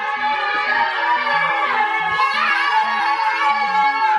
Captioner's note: kids cheering